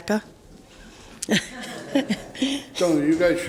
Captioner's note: laughing